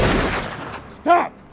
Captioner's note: gunshot blasts